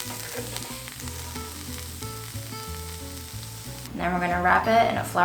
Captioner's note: sizzling sounds